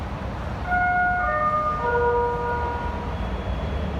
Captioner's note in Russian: сигнал о прибытии поезда